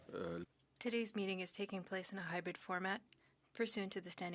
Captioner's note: speaking French